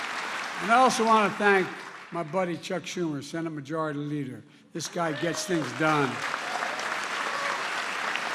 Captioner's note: applause